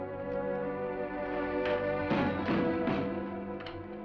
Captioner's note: banging on door